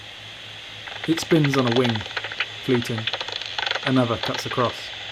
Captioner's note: bat detector whirs with static